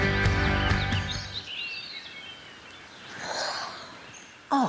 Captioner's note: birds chirping